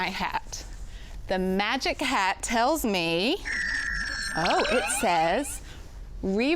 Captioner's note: magical chime